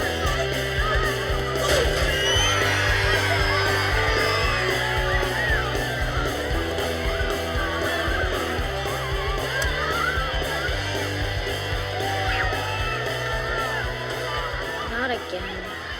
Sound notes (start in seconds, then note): 2.5 students cheering